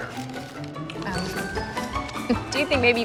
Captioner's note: light whimsical music; Frank chomping loudly